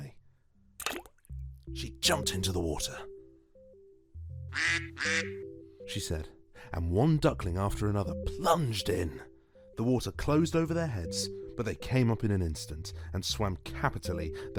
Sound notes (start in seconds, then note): 0.8 splash sfx; 2.9 quack sfx